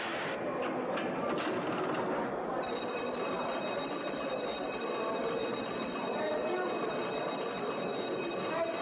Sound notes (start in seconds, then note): 2.6 alarm blaring